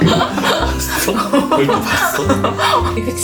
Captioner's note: laugh